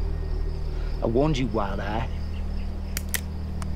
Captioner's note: cocks gun